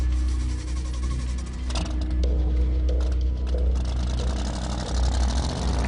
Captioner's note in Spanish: Sonido del automóvil